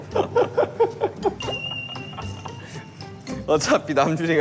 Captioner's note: laughing out loud for an extreme direction